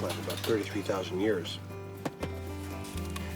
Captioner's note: taps cereal box